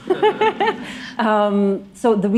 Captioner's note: laughter